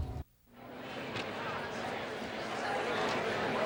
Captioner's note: chattering